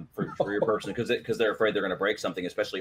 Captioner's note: chuckles